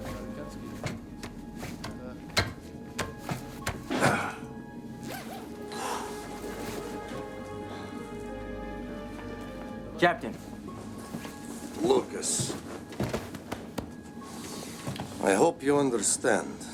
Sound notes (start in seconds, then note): 3.0 chopping; 3.8 moan